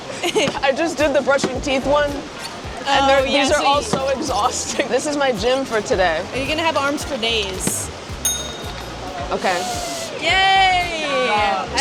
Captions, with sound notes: - I just did the brushing teeth one and these are all so exhausting. This is my gym for today. - You're going to have arms for days. [ding] - Okay. - Yay!